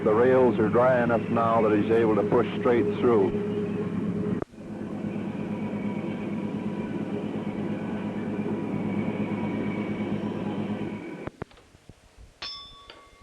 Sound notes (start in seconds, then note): 5.1 sound of train moving; 12.4 bell Sound